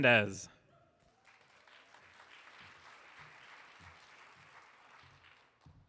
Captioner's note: audience applauding